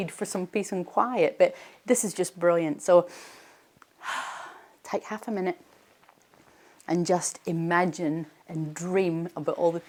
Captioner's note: deep breath